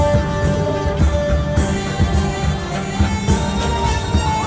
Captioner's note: jovial music; people chattering